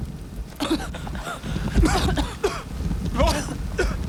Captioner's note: coughing